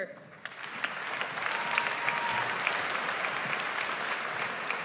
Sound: audience applauds

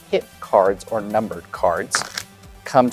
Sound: cards riffling

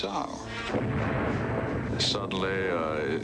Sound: explosion

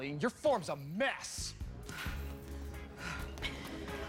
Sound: breathing heavily

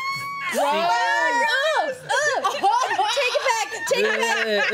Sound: overlapping chatter

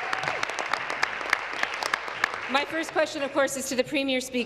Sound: applause

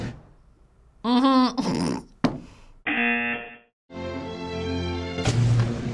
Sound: explosion poofs; laughs; buzzer rings; explosion poofs

